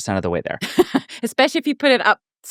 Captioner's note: laughing